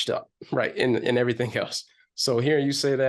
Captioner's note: chuckles